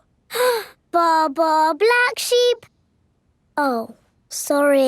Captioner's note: inhales